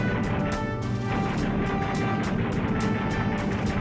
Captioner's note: gunfire; explosions